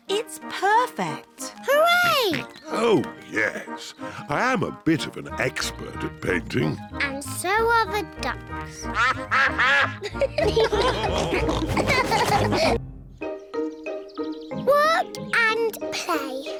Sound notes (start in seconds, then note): 8.8 quacking; 10.7 all laugh